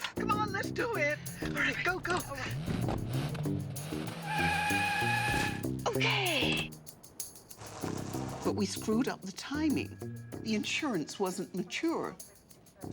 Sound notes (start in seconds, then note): 3.4 engine revving; 4.0 tries screeching